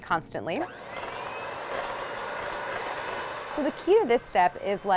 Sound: mixer whirring

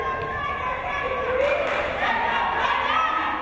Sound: crowd

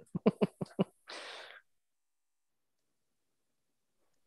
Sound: laughs

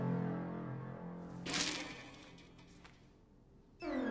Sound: rattling

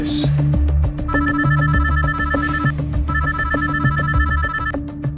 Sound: phone ringing

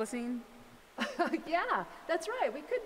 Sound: laughs

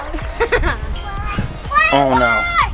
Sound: laughter

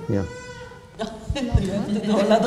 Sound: laughter

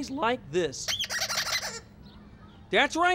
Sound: light squeaking

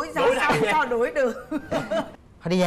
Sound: laughing

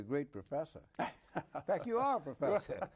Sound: both laugh

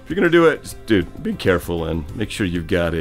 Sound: none

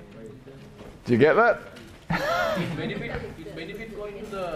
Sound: laughs

